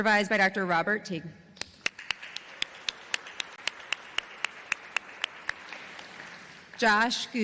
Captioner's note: applause